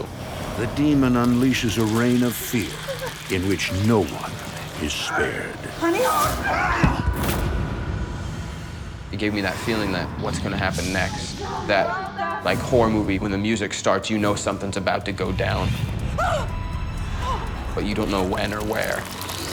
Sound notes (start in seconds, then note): 6.5 man groans; 16.2 woman gasps